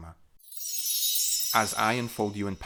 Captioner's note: chime